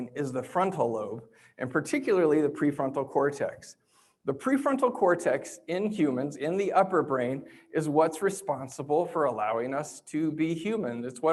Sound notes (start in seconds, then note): none